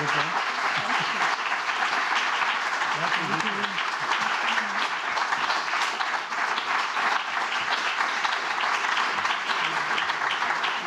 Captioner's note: applause